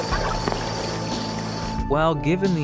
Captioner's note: phone line hangs up